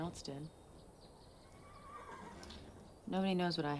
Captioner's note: horse whinnies